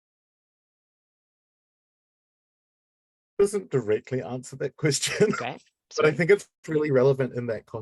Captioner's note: laughing